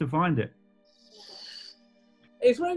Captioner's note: inhales